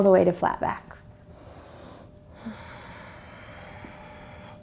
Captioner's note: deep breath